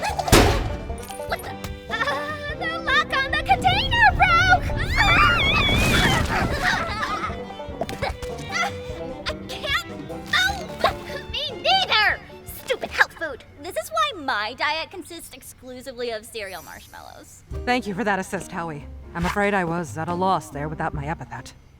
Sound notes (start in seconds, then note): 0.1 clang!; 4.7 the girls scream